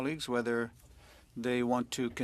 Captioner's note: speaking French